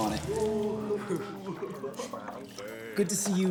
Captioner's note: boys laugh and jeer